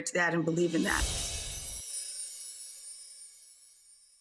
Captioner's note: bells chime